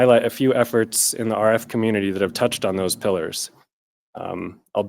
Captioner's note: radio frequency